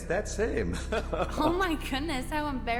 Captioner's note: laughing